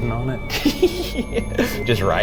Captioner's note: laughs